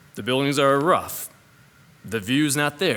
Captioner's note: none